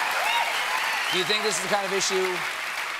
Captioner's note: applause